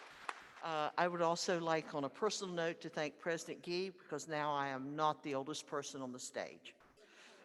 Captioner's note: applause